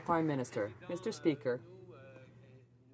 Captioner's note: some Applause